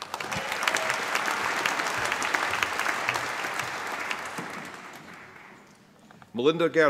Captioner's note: applause